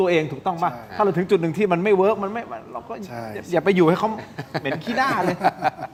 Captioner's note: laughs